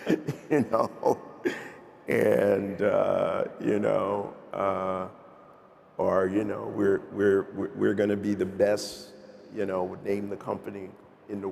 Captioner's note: laughter